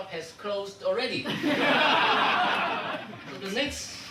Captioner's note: audience laughing